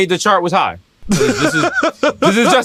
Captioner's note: laughing